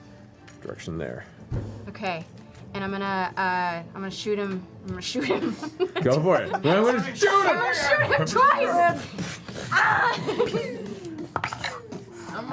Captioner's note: laughs